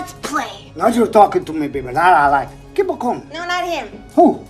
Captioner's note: trying to mimic Tony Montana